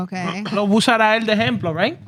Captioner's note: speaking Spanish